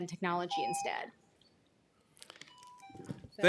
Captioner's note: timer tone